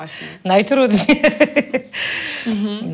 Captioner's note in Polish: śmiech